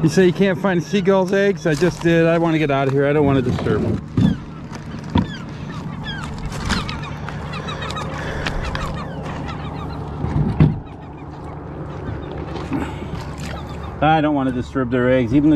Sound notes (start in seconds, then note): 6.5 seagulls calling; 12.0 motor engine humming